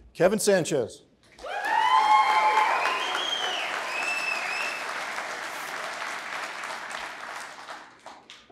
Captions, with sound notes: Kevin Sanchez. (applause)